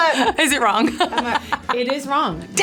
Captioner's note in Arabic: يضحك